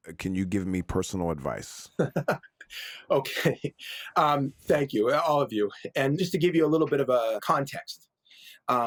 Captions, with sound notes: Can you give me personal advice? - (laughs) Okay, thank you, all of you. And just to give you a little bit of a context.